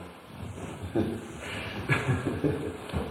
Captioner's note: laughter